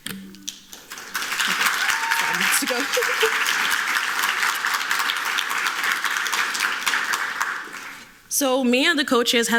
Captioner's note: applause